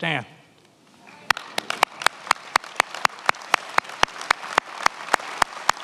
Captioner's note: attendees applauding